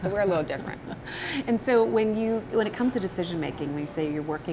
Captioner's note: chuckles